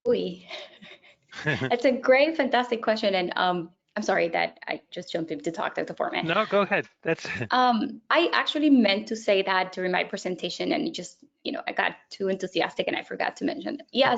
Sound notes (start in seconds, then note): 1.3 laugh; 6.1 laughs